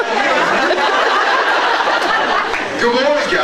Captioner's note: laughs